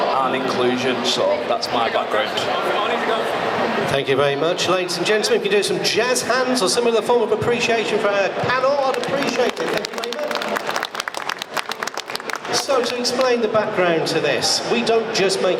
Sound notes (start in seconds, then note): 12.2 applause